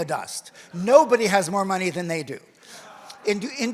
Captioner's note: audience laughs